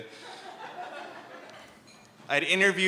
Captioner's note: laughter